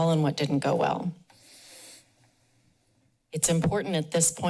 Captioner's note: pause